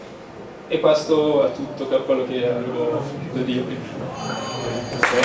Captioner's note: bell